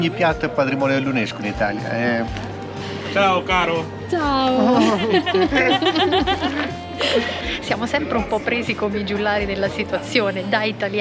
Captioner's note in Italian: Risate